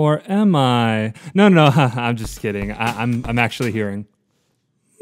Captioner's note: laughs